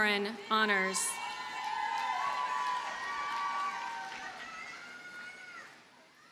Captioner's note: audience cheers and applauds